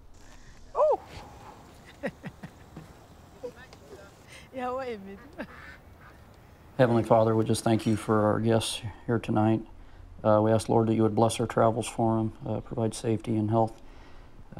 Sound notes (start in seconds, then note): 0.8 laughing; 4.1 foreign Language 04:35:69